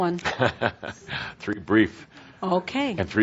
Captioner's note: chuckling